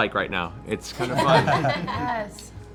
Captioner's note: laughter